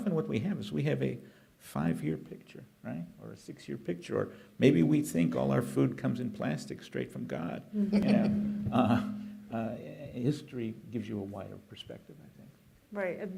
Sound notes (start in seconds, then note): 9.0 laughter